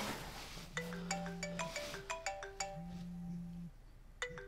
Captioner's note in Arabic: رنين الهاتف